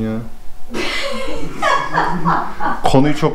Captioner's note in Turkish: Gülüşmeler